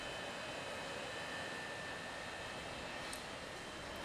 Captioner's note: none